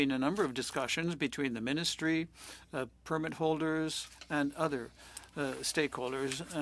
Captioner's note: speaking French